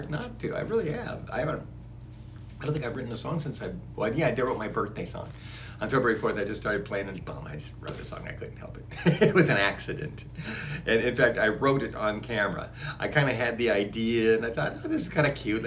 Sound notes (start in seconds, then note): 9.0 laughs